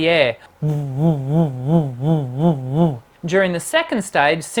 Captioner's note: pulsing humming